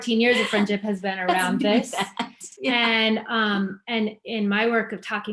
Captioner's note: laughs